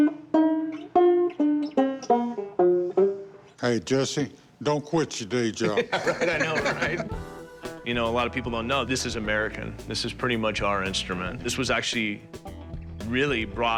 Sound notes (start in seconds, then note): 5.6 chuckling